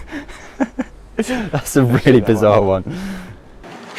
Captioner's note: laughing